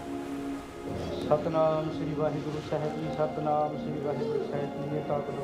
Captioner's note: man praying in Punjabi